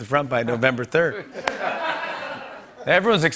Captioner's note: laughter